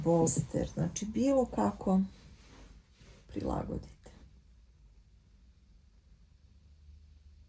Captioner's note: snorting